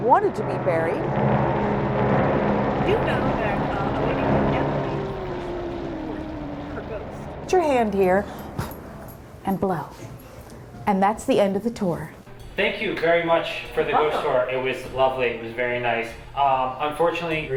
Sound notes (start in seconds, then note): 1.5 spooky sounds; 8.3 puff